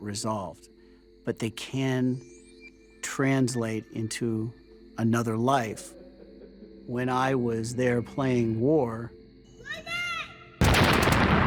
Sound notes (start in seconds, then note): 10.6 explosion